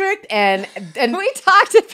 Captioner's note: laughs